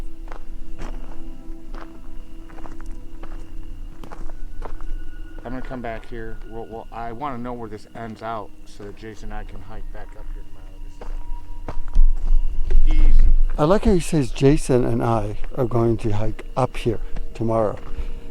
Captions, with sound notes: (footsteps crackling) (tender suspenseful music) - I am gonna come back here. Well, I wanna know where this ends out so that Jason and I can hike back up here tomorrow. - I like how he says, "Jason and I are going to hike up here tomorrow."